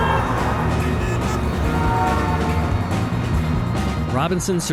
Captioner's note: car horns honking